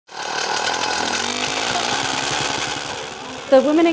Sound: machine roaring

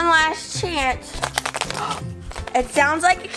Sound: Assistant rattles egg; assistant gasps

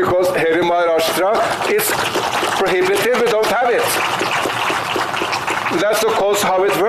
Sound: applause

